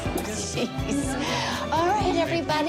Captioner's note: laughs